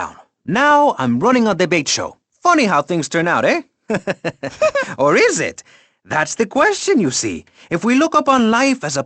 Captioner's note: chuckles